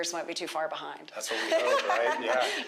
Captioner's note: laughs